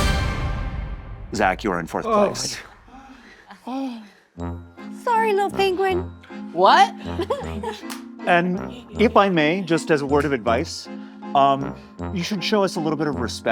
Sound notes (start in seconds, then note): 2.8 gasps